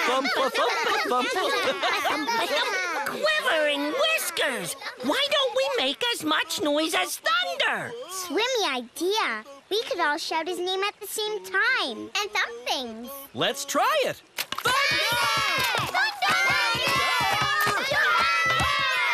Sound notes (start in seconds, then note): 2.9 laughter; 14.6 shouting and thumping